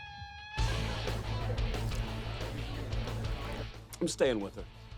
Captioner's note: rock music; people chattering